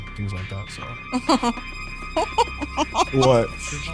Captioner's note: laughs